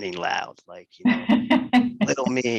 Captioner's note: laugh